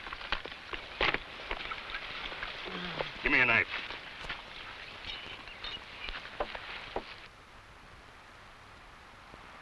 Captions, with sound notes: (man groans) - Give me a knife.